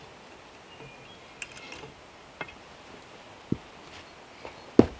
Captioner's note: bird chirping